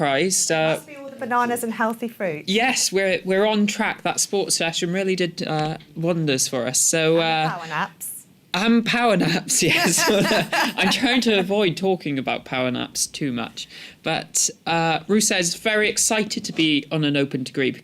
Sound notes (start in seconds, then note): 9.5 laughter